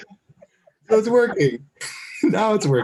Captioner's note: laughs